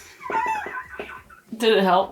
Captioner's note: laughing